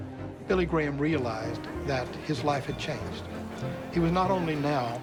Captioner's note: train bell